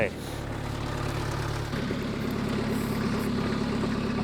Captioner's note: engine revving